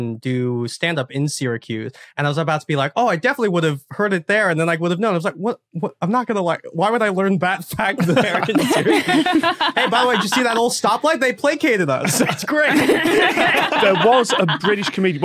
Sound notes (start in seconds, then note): 7.9 group laughing